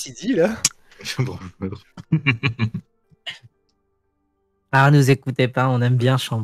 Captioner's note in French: rires